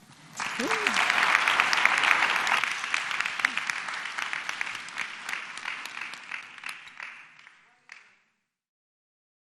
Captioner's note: applause